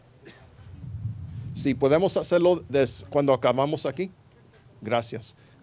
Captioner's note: responding in Spanish